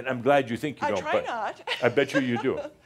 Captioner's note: she chuckles